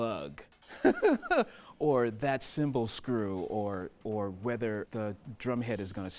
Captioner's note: chuckling